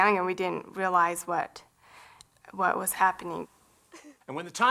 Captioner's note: sniffling